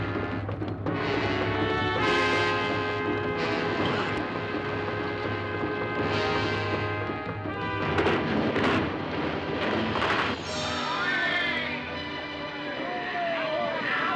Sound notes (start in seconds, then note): 10.6 shouting